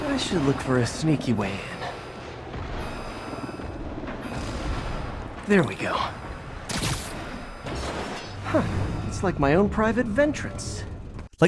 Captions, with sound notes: I should look for a sneaky way in. (alarm beeping) (helicopter whirring) There we go. Huh, it's like my own private ventrance.